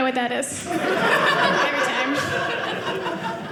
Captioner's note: audience laughing